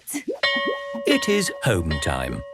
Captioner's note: bell rings